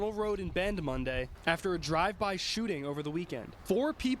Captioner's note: trash blowing in wind